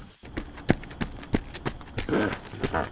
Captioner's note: officer's footsteps